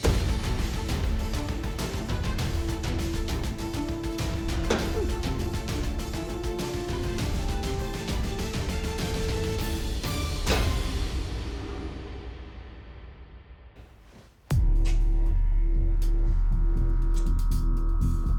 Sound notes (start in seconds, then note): 0.2 thud; 4.6 thud; 8.6 dramatic musical build; 10.1 thud